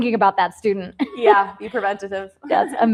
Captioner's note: laughs